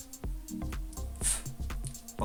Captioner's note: sound of a whiff